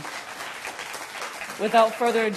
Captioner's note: applause